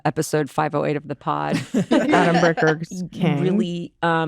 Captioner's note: laughter